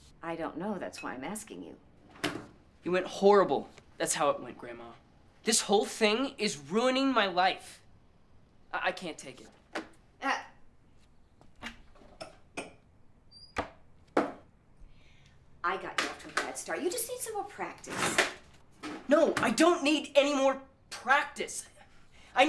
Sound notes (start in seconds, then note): 12.5 glass clattering; 12.5 glass thuds